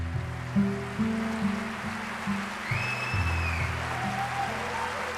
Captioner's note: audience applauds and cheers